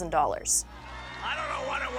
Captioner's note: audience cheers